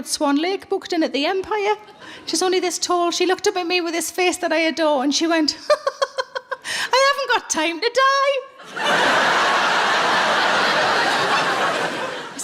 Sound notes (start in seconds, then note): 5.7 laughing; 8.6 audience laughing